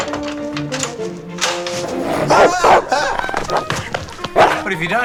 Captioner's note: barking